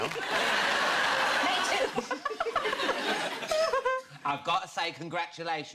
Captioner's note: both laughing